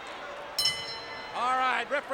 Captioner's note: bell rings